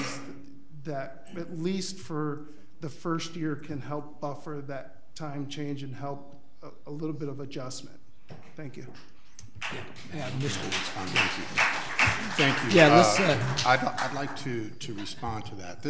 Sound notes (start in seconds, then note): 9.5 audience applauds